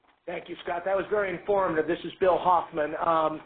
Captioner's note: voiceover